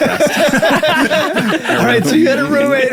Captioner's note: everyone laughing